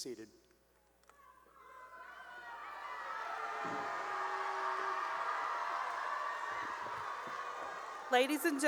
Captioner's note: cheering